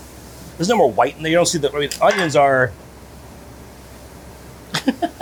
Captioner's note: chuckling